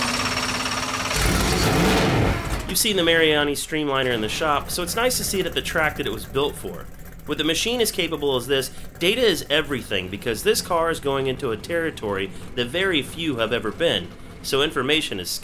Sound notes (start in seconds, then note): 0.0 engine revving